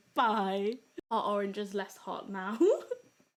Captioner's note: giggles